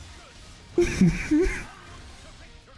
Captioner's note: laughs